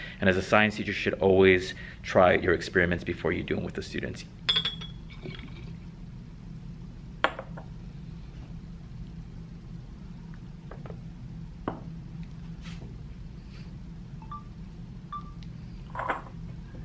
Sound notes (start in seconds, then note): 4.4 glass clinking